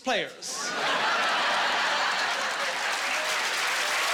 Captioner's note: laughing and cheering